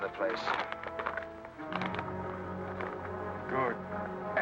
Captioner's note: paper rustling